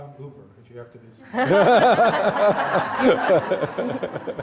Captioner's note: all laughing